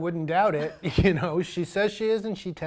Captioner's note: laughs loudly